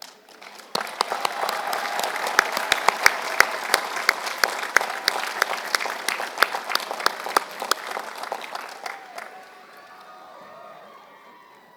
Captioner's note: applause